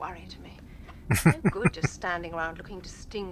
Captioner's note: chuckling